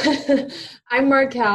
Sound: laughs

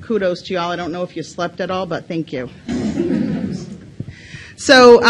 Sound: audience laughs

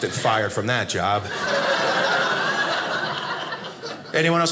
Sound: audience laughing

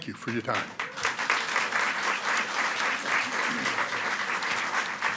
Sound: audience clapping

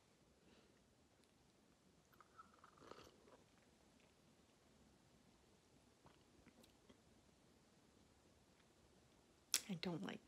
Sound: sipping noises

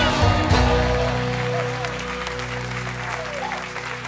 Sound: cheers and applause

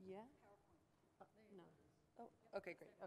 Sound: voiceover

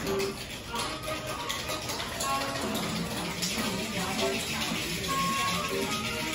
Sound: very elaborative sound of making cocktails

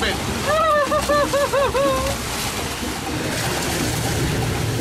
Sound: whimpering

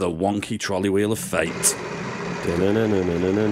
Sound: wheel spinning

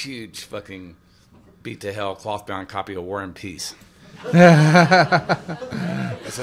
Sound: laughter

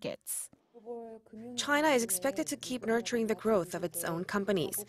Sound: Korean

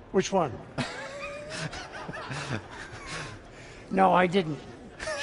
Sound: laughs

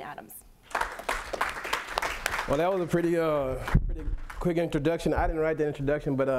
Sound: clapping

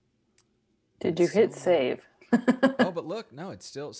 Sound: laughs

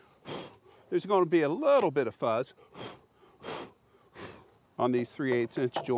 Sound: blowing; blowing

